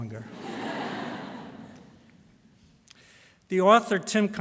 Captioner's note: laughter